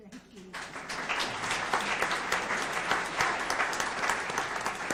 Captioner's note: audience applauds